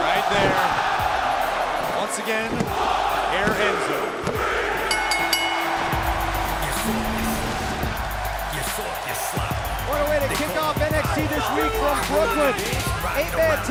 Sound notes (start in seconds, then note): 6.4 bell ringing